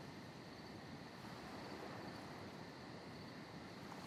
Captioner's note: night ambience